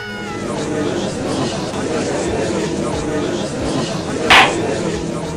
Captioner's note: gallery chattering; gavel slams!